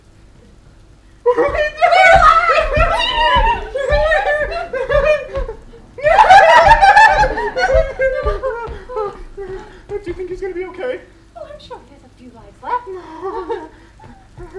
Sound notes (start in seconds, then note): 3.0 they squeal with joy; 5.8 they squeal with joy...more